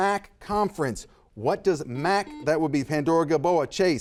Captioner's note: buzzer buzzes